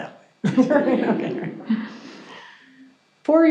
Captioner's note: audience chuckles